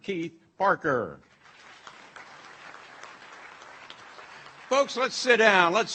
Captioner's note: audience applauds